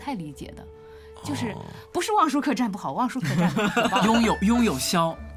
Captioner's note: laughs